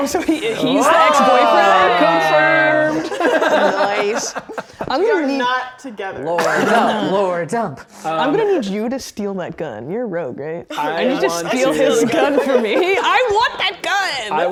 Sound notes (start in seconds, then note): 4.3 players laughing